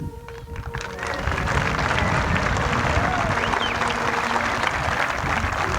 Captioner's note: applause